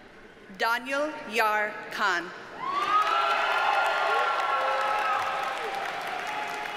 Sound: audience cheers and applauds

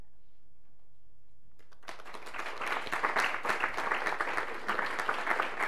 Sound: applause

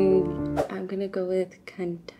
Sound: emotional music; transition whooshing

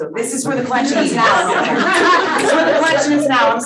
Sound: audience laughing

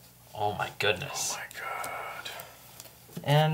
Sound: whispering

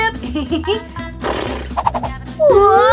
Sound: giggles; comical flute whistles; snorts

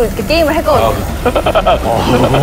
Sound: laughing

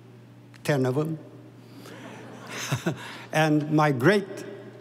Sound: audience laughing

